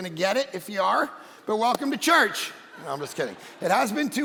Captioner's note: congregation laughing